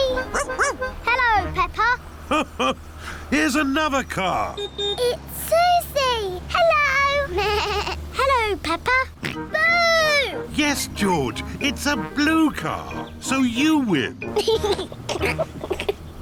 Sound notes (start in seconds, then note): 0.3 barks; 2.2 laughs; 4.4 horn beeps; 7.3 bleats; 9.2 oinks; 14.3 laughs